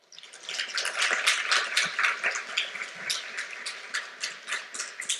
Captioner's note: applause